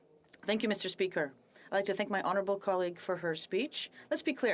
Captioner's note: speaking French